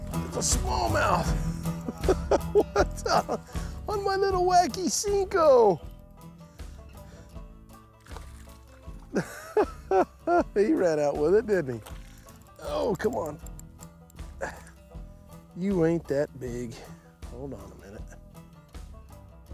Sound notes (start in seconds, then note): 1.6 chuckles; 9.1 laughs